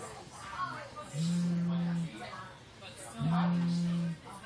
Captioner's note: cell phone vibrating